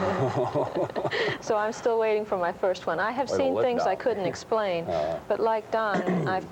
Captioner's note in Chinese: 突然语气变严肃